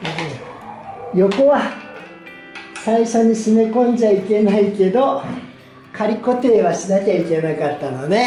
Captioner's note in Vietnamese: cười